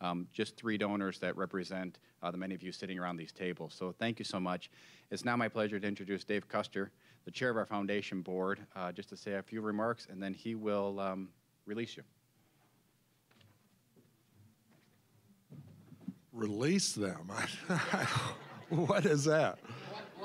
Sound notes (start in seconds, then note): 17.3 all laughing